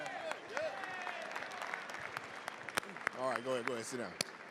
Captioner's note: applause